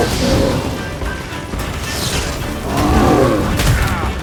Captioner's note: roar; lightning crackles; roar; groan